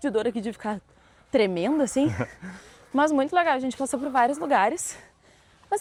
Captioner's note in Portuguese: risadas